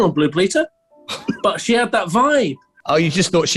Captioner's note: chuckling